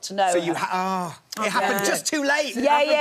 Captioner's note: groaning